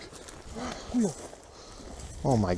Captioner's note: gasp